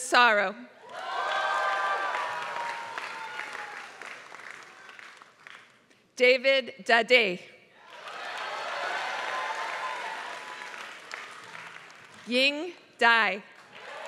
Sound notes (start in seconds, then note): 0.0 applause; 7.8 applause; 13.6 applause